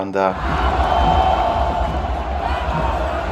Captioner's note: fan chants